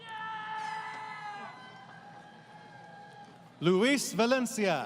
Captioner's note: crowd Cheering